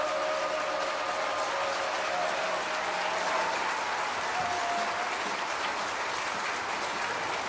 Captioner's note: crowd cheering